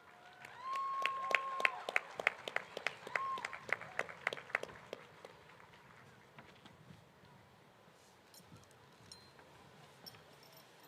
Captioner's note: applause